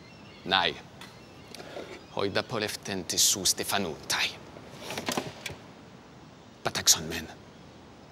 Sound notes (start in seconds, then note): 0.7 Themistocles speaking in foreign language